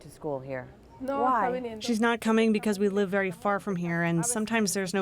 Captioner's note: through translator